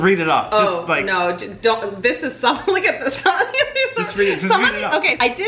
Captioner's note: laughs